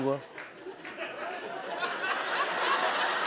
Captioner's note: laughter